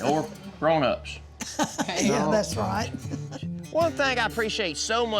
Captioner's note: laughs